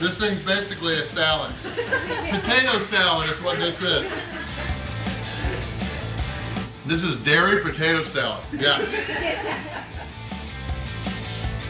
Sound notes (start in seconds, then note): 8.5 crowd